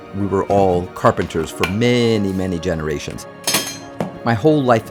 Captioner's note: metal clanks